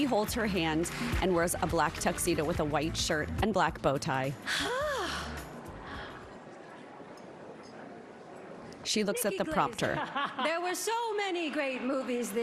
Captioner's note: applause